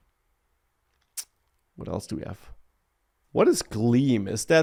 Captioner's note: smacks lips